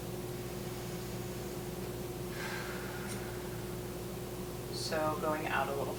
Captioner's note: inhaling and exhaling